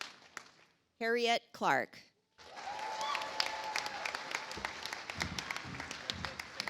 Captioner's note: audience applauds